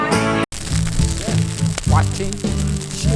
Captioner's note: fire crackling